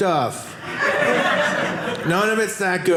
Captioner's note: audience laughing